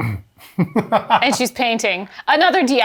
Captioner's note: laughs